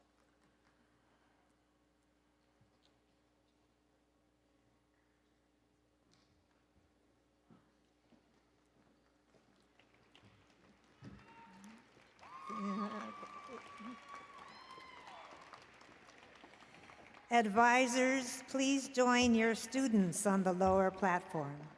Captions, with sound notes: [ Applause and Cheering ] Advisers, please join your students on the lower platform.